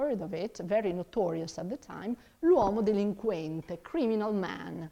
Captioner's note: speaks in foreign language